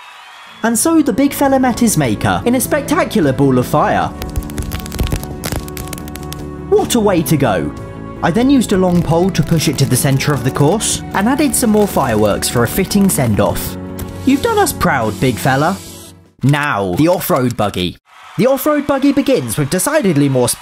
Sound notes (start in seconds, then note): 4.2 fireworks crackle